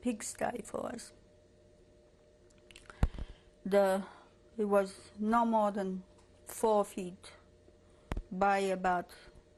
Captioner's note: pauses for 3 seconds